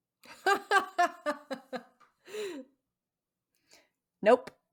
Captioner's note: laughing